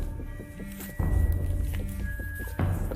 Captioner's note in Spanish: Vibra el celular